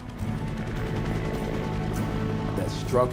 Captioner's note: helicopter blades whipping